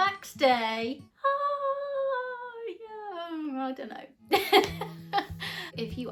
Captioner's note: laughs